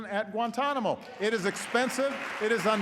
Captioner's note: applause